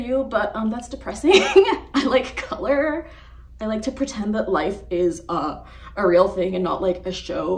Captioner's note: laughs